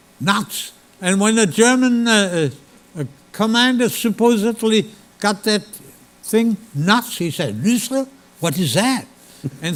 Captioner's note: speaking German